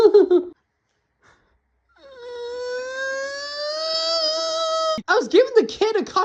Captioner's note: cries